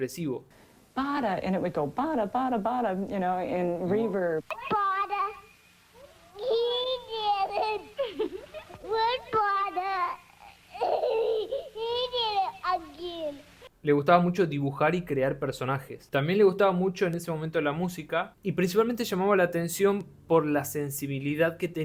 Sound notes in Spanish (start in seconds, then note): 7.9 risas